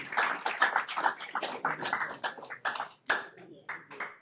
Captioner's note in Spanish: aplausos